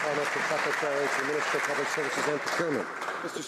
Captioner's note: some Applause